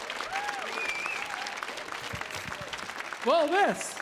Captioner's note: audience applauding